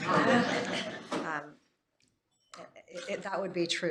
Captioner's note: laughter